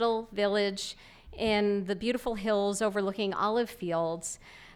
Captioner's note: none